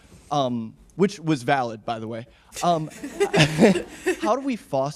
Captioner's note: audience laughing